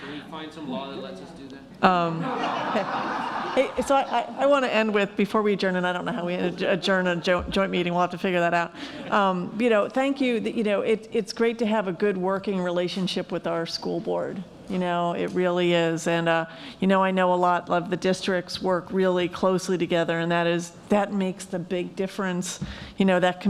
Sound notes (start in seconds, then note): 2.2 laughing